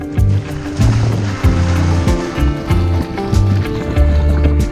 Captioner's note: water splashes